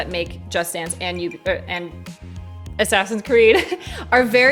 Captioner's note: chuckles